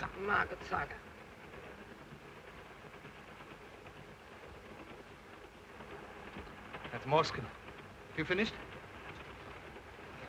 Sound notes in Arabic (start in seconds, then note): 1.9 صوت خشخشة القطار